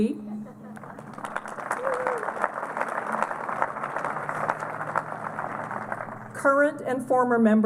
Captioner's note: applause